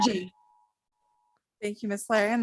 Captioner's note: timer beeping